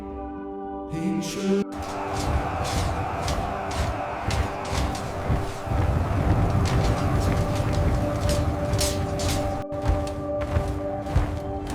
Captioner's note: hooves thud